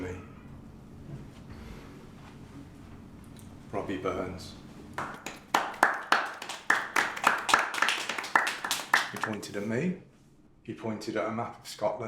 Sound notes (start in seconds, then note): 4.9 pitiful clapping